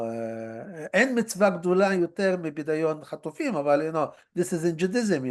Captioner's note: hebrew